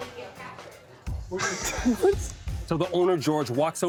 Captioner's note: laughing